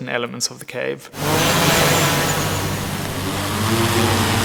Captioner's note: drone whirring